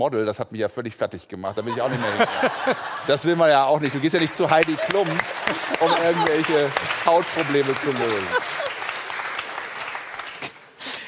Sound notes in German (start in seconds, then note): 7.0 Applaus